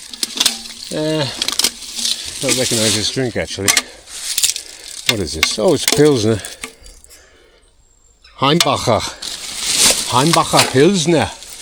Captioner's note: German spoken